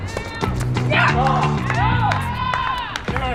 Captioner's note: cheering